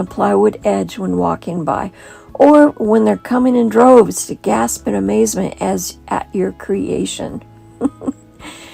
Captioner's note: giggle